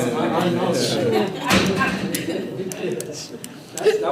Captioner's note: board members laughing